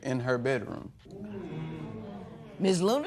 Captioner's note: spectators murmur